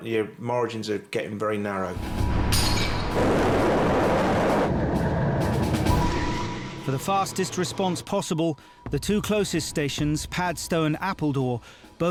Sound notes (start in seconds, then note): 1.9 dramatic music; 3.1 boat engine revving; 5.7 dramatic music